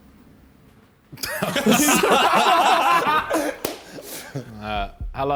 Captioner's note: men laughing